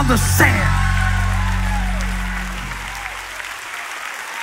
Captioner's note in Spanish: Aplausos